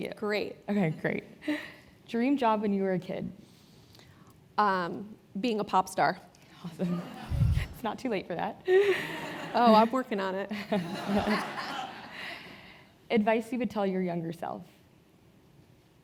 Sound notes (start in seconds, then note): 6.5 laugh; 10.8 laugh